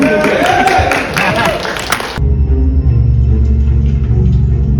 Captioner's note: audience applauding; dramatic music